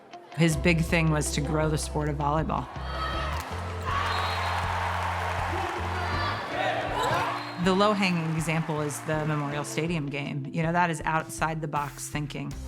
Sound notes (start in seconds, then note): 2.6 spectators cheering; 3.8 whistle blowing